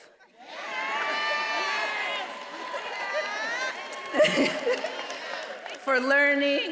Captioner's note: attendees applauding and cheering